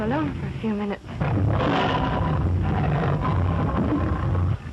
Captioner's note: lion roaring